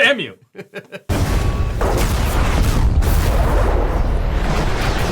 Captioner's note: laughing; spacecraft launching